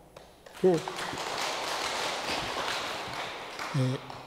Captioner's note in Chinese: 眾人鼓掌